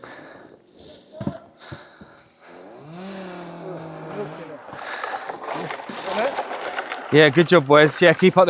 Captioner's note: huffing and puffing